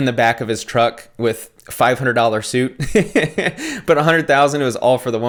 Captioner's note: laughs